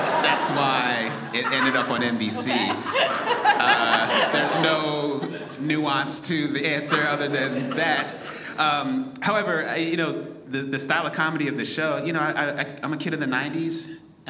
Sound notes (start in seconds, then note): 2.5 all laugh